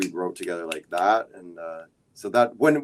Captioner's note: snaps fingers